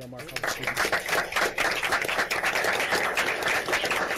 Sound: applause

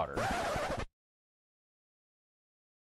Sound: record scratching

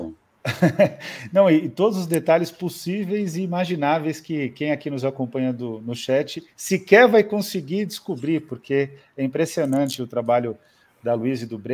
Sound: laughs

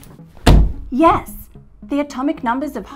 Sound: hands thumping

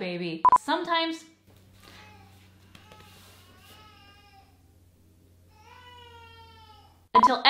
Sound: baby cries

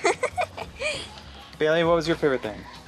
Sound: laughs

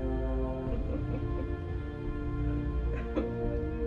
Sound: laughing

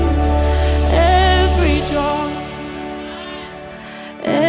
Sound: audience praise

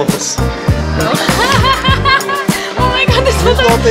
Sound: laughs

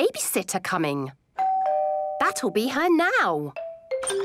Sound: doorbell rings

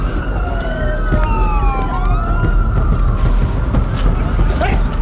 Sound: sirens wailing

